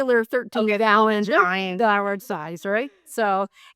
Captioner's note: chattering